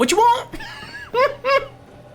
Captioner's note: laughing